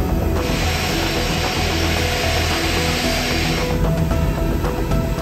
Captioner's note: plane engine whirring; tense music